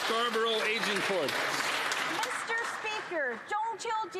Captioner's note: some Applause